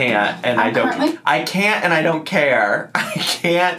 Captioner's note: laughs